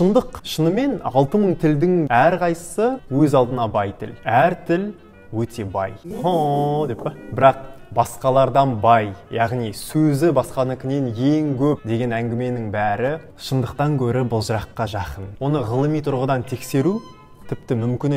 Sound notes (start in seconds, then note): 5.9 sounds of affection